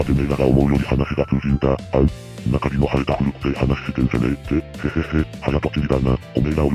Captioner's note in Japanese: 咳払い